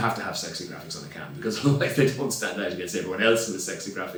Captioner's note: laughs